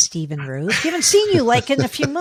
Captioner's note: both laughing